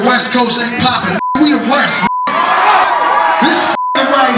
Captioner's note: crowd cheers